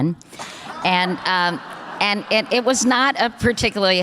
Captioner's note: audience laughter